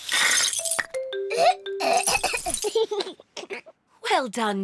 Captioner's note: splutters; giggles